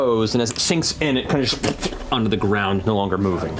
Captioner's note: splatting